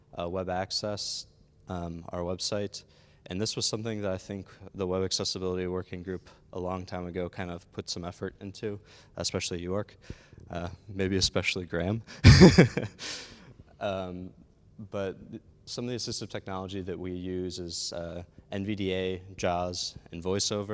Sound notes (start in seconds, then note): 12.2 laughs